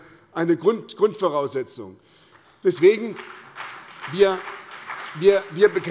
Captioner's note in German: Beifall bei der SPD